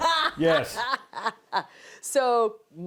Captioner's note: laughs